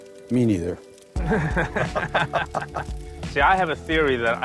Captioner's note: laughs